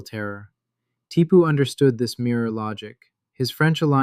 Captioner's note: thoughtful